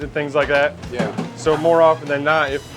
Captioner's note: pat